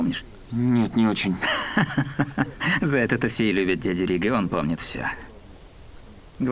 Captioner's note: laugh